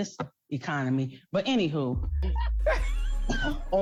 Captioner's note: laughs